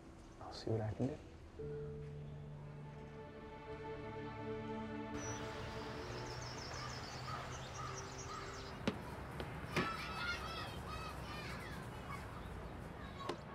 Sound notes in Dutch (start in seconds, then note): 9.6 children laughing and shouting